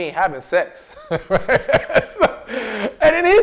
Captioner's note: laughs